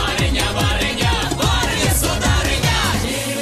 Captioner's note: none